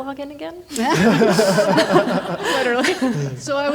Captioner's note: everyone laughing